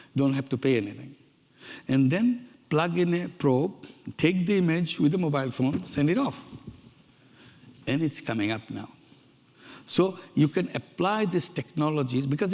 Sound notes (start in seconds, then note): none